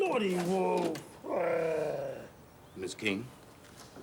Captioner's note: wolf growls